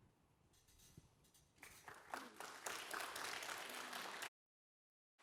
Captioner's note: applause